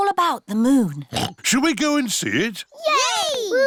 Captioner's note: oinks